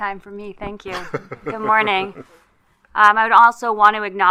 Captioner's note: laughing